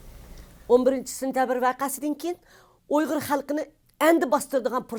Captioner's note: speaks in foreign language